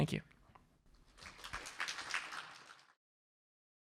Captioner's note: applause